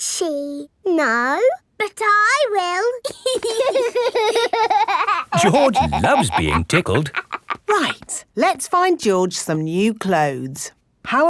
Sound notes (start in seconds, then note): 3.1 laughing